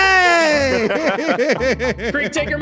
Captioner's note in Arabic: تضحك